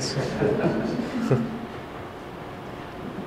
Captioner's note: laughter